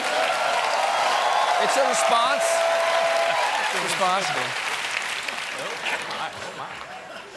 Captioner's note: cheers and applause